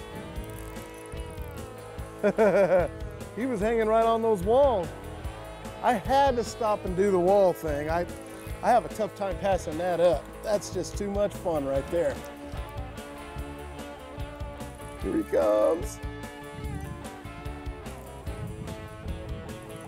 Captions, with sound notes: [laughs] He was hanging right on those walls. I had to stop and do the wall thing. I--I have a tough time passing that up. That's just too much fun right there. Here he comes.